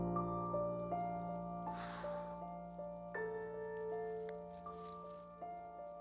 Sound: sighs, emotionally

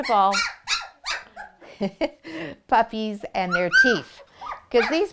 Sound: laughs

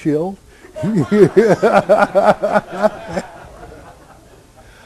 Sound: laughter

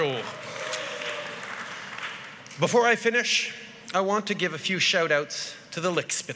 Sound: groans

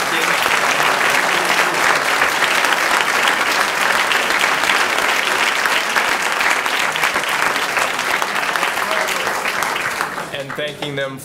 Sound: applause

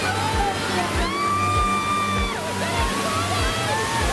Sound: screams

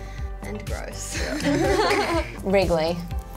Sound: others laugh

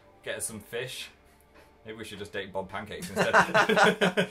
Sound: laughs

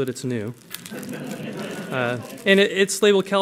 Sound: laughter

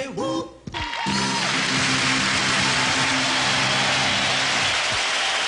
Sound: audience applauding

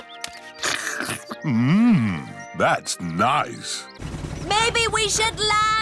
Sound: slurps

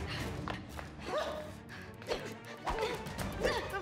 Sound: grunting

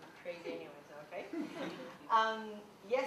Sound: laughter

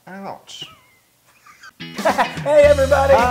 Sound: laugh

